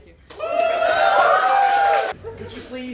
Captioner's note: applause